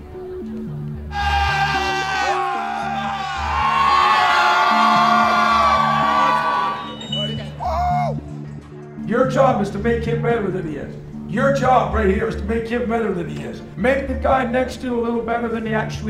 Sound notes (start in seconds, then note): 1.1 crowd cheering